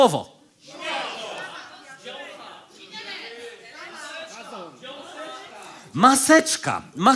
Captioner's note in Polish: krzyki publiczności